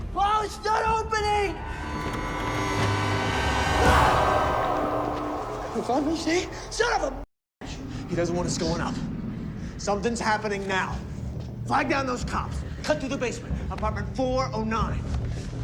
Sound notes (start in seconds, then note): 1.3 sinister music; 4.0 Simon screams